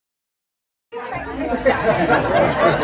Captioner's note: laughter